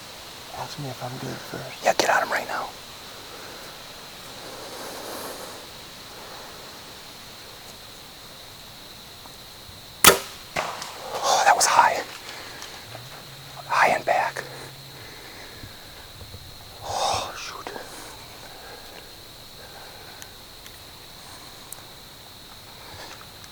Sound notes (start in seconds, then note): 4.6 wind / heavy breathing; 18.2 heavy breathing